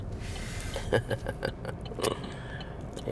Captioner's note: laughing